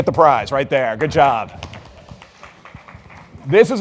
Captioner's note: audience clapping